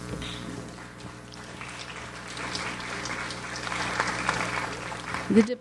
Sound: audience applauds

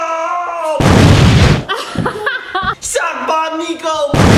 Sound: explosion; explosion

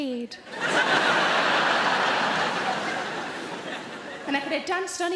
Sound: audience laughing

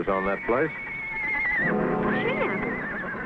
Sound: horse neighing

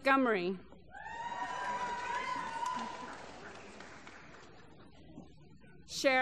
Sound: applause

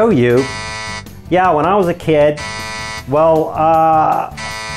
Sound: beep; beep; beep

